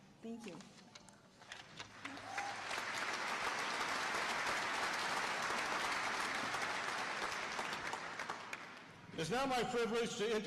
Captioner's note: applause